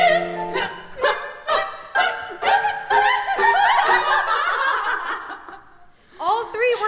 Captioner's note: laughter